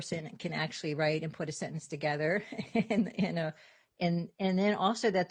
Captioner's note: chuckles